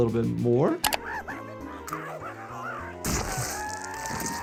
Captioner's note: Handy screams